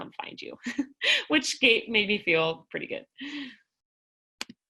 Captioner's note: laughter